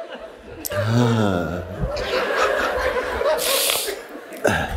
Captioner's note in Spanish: risas